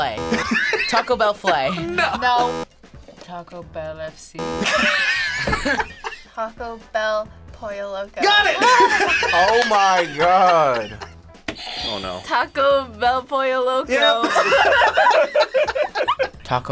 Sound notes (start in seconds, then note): 0.3 Taco bell laughs; 2.1 buzzer; 4.4 buzzer; 4.5 group laughs; 8.5 laughs; 11.4 buzzer rings; 14.1 group laughs